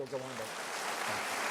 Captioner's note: applause